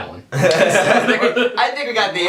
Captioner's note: laughing